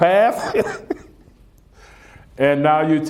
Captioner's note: laughs